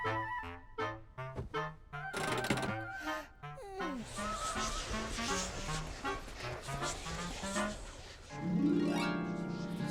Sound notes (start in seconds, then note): 3.5 yawning; 4.6 eerie whispering